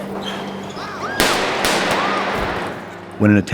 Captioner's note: gunshots, screaming